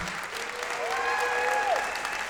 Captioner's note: applause